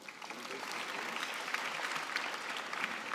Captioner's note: applause